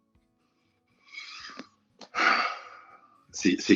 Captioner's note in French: soupir